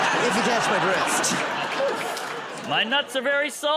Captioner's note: laughter